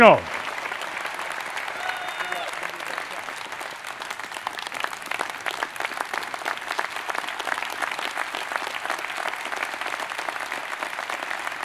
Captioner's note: applause